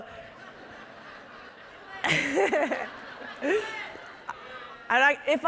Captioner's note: audience laughing